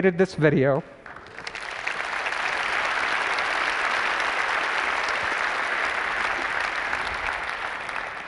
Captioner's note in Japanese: 拍手